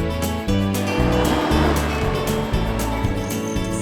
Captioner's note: atv rumbling; wind rustling